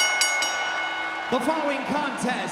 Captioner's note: crowd cheering; bell dinging